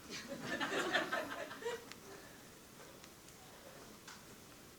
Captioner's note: audience laughing